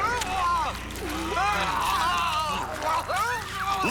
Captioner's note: shouts